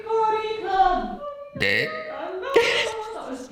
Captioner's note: burps; laughs